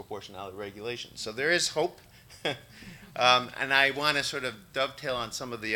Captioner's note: chuckles